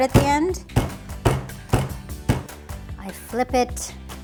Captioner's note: pounding noise